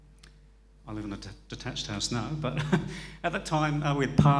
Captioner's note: chuckles